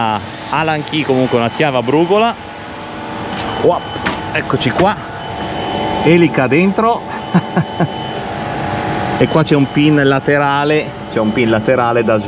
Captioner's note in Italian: risate